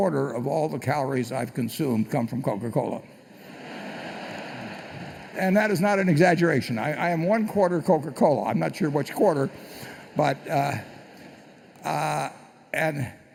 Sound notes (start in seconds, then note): 3.3 laughter